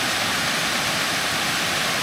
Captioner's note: water splashing